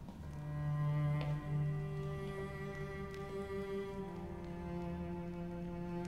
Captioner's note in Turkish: Ayak sesi